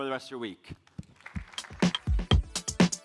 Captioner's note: applause